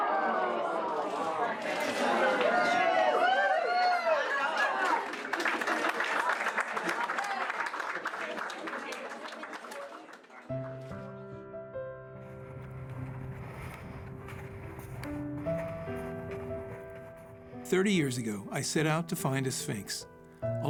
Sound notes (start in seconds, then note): 4.5 applause